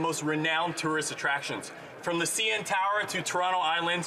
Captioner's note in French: voix de l'interprète